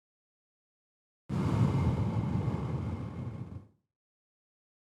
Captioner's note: deep Exhale